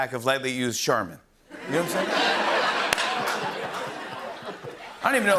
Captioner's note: laughter